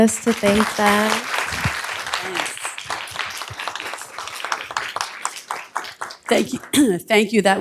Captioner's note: applause